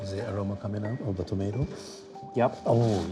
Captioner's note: sniffing